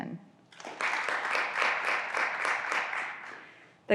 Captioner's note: graduands applauding